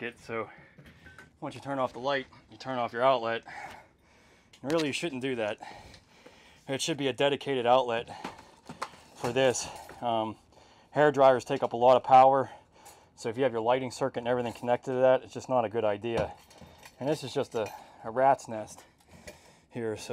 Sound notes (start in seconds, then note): none